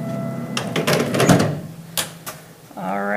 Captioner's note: object thudding